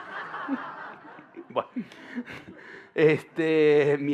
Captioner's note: laughter